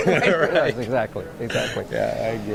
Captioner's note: laughs